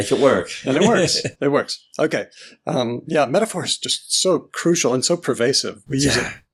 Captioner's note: laughs